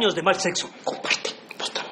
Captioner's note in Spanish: susurrando